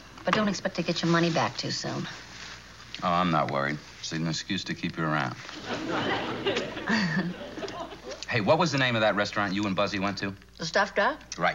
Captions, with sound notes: But don't get expect to get your money back too soon. Oh, I'm not worried, it's even an excuse to keep you around. (Ann laughs) Hey, what was the name of that restaurant you and Buzzy went to? The Stuffed Duck.